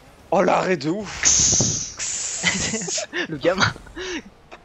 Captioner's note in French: Bruitages